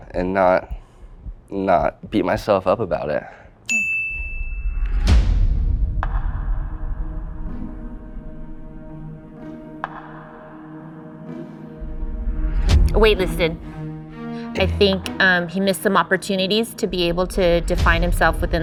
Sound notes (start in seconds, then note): 3.6 eye gleam dings; 7.8 intense music